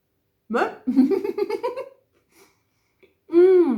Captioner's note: laughing